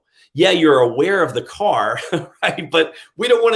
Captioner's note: laughs